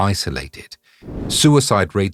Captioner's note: air whooshing